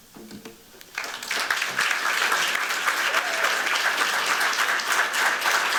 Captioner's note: applause